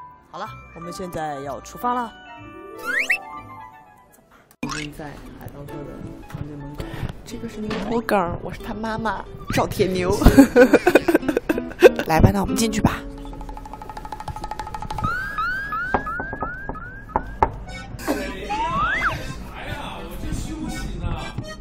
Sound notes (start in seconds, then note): 16.1 knock with a sense of rhythm